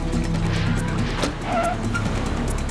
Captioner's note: tires screech